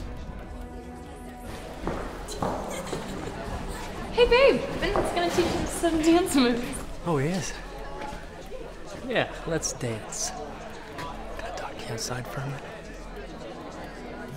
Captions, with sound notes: (Lena chuckling) - Hey babe, Vince is gonna teach us some dance moves. - Oh he is? Yeah, let's dance. Can I talk to you outside for a minute?